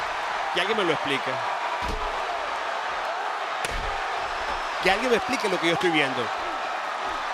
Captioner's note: applause